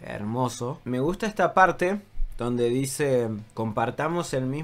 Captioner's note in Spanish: en francés